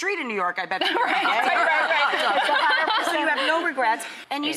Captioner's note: laughter